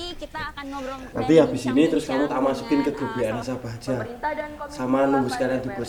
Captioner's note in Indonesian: Suara TV menyala